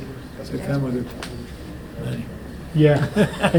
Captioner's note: Richard laughing